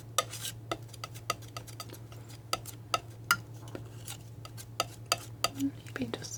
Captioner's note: tapping